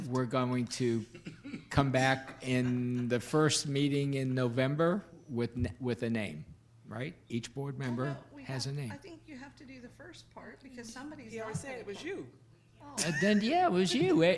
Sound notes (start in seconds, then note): 13.0 laughs